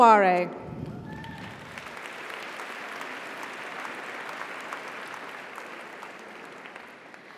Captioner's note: audience cheers; audience applauds